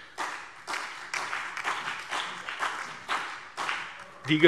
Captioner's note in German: Beifall BÜNDNIS 90/DIE GRÜNEN, DIE LINKE und vereinzelt CDU